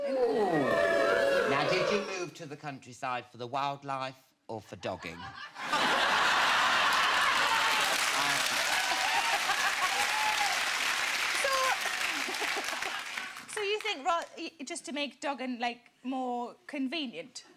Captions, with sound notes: - Now did you move to the countryside for the wildlife or for dogging? (audience laughing) (audience applauding) - So, you think just to make dogging like more convenient,